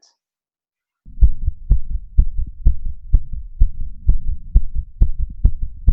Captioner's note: heartbeat rapidly thudding